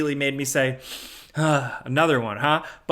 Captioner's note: sighs